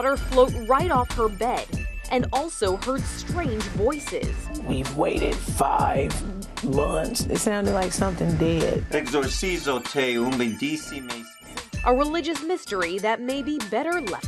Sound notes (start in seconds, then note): 9.1 speaking Latin